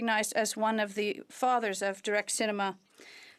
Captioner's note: speaking French